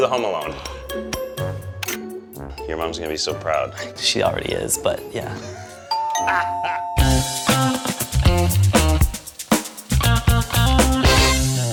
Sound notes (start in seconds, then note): 5.4 laughs, doorbell rings; 7.1 upbeat music